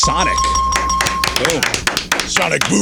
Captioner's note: bell ringing